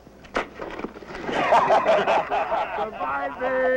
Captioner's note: Wayne thuds; men laughing